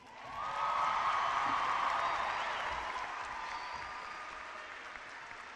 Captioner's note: cheering and clapping